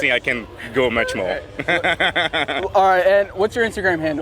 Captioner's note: laughs